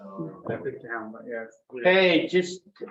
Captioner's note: members chattering